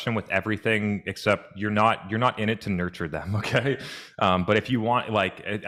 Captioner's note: chuckles